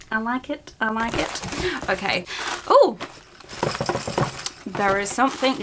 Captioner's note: items jingle